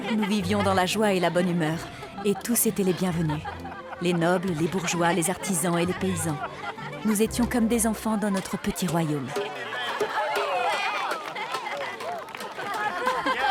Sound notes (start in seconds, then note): 9.9 crowd cheering